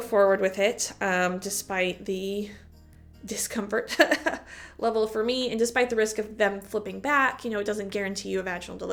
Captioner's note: chuckle